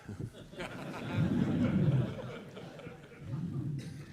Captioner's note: laughter